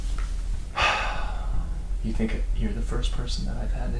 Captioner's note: sighs